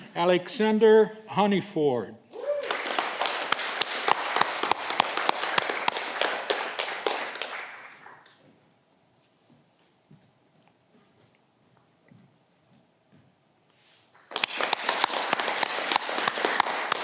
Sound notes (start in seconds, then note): 2.3 audience clapping